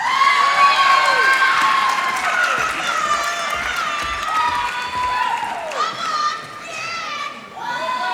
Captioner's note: applause